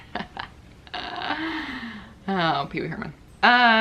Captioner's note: laughs